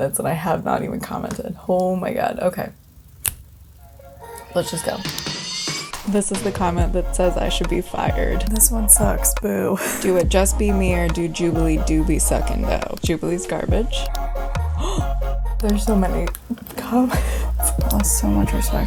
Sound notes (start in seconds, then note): 3.2 snaps fingers; 17.1 gasps